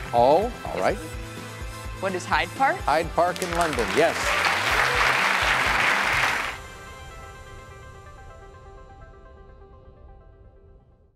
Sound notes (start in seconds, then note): 3.2 audience applauds; 6.7 light, energetic music